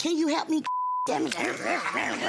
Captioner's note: growl; grumble